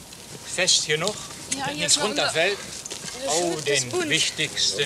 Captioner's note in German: Arbeitsgeräusche und -gespräch